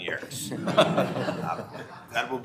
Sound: members laughing

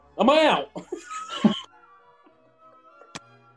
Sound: laughter

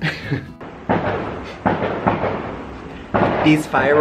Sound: loud banging noise

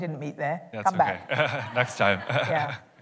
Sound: laughter

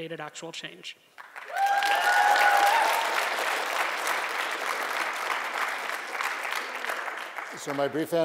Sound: applause

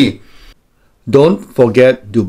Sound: inhale

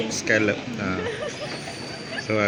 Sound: laughs

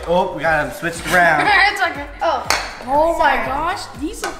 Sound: laughs loudly

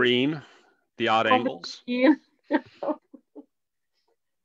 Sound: laughs

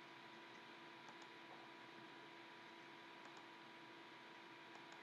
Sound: mouse clicking

